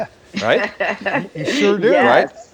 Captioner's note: laughs